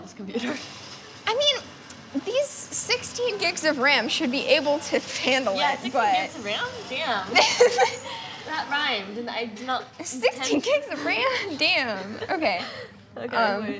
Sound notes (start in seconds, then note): 7.3 laughter